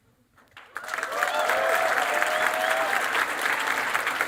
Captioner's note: cheering and applause